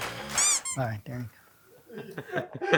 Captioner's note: gun squeaks